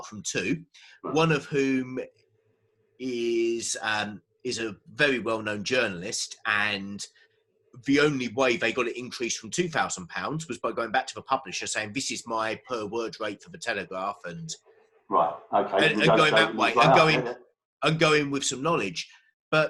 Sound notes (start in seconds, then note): 15.1 murmurs